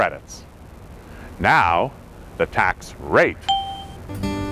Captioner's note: ding